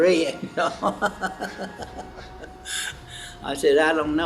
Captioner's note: laughs